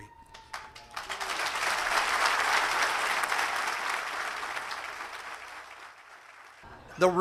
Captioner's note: applause